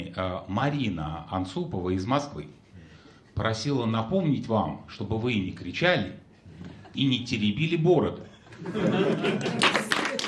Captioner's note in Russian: аплодисменты